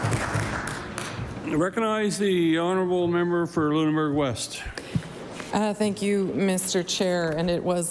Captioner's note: applause